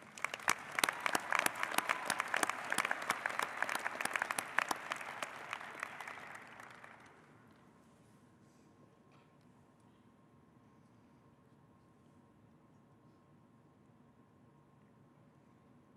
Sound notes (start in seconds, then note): 5.4 applause